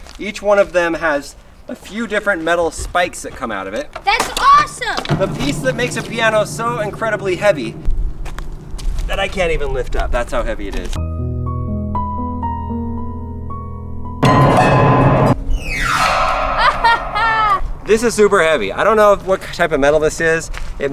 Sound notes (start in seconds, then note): 11.0 relaxing piano music; 14.5 discordant piano notes; 16.5 laughing